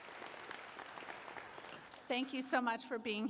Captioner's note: applause